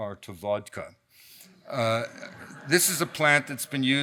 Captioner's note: audience laughs